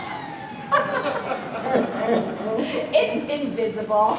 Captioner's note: Grandma and Pops laugh